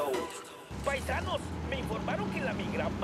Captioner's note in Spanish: voz en el radio